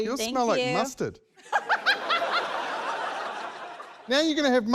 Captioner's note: laughs